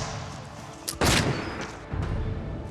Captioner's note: shots firing